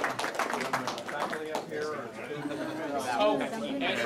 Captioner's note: applauding; chattering